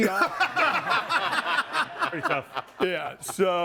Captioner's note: everyone laughs